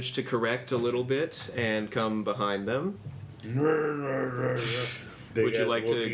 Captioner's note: growls